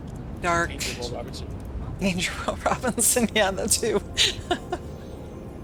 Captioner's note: laughter